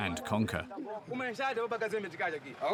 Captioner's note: Portuguese spoken audio